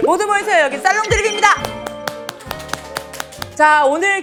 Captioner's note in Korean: 짝짝짝